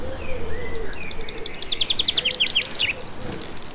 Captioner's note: loud birdsong